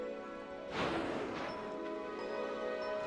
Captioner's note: water spewing